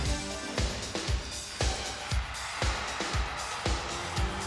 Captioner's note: applause